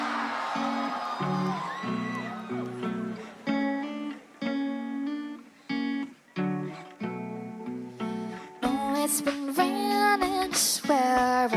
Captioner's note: crowd cheering